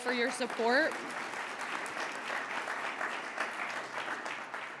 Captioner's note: audience applauds